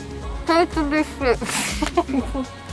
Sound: laughing

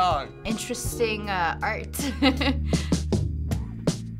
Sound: chuckles

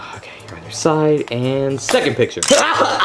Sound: camera clicks

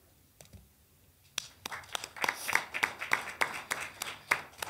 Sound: clapping

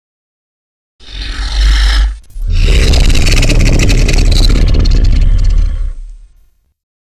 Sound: sound of dragon

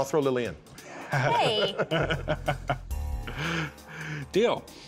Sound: laughter

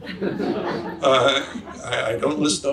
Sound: audience laughs

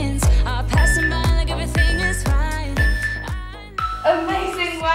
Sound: beeping sound

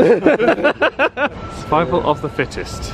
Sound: group laughing

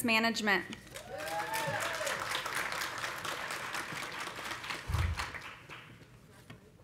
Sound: audience applauding; audience cheering

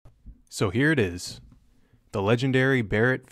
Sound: voiceover

